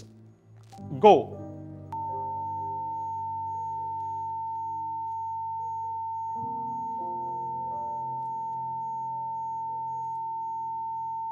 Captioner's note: the lesioning sound is heard in the background